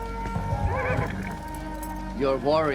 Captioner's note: horse whinnies